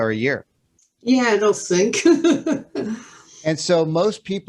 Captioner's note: laughs